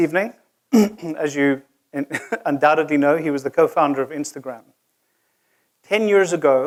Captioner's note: cough